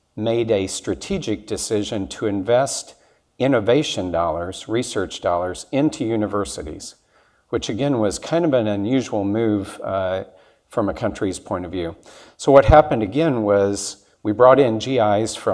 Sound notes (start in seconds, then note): none